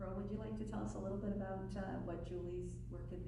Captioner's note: voiceover